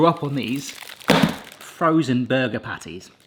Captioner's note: patties thump